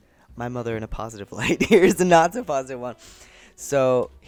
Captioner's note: laughs